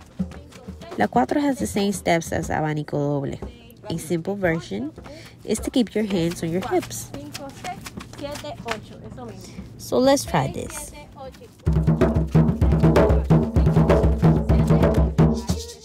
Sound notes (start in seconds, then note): 7.3 feet shuffling; 11.5 drums playing